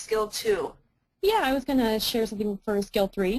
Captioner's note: voiceover